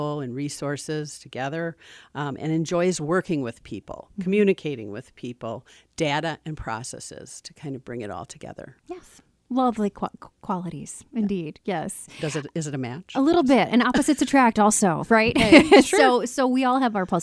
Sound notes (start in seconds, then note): 15.4 laughs